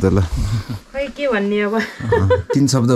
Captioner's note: laughter